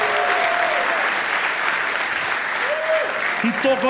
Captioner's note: applause